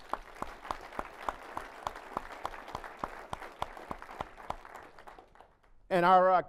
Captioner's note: applause